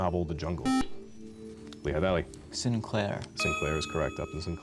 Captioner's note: buzzer